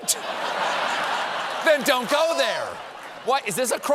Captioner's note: laughter